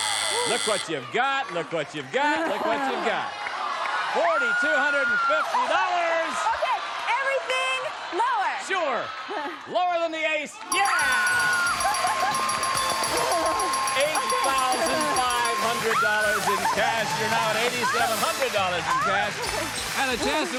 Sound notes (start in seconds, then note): 12.3 dinging; 13.4 applause